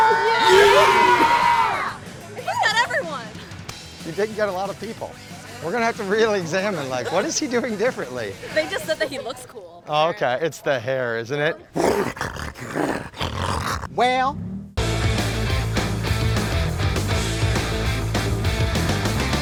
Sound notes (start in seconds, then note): 0.0 screaming in excitement; 11.7 imitating growling; 14.8 rock music begins